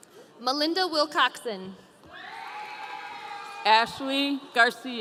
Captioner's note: audience cheering